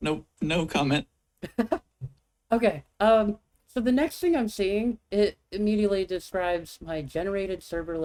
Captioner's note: chuckles